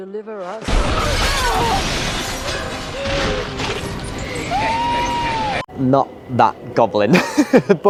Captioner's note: screams